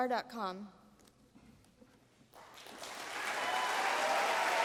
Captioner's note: applause